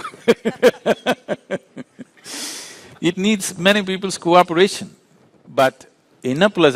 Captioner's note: laughs